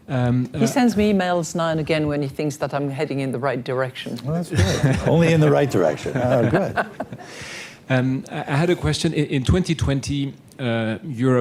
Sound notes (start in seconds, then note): 5.7 laughter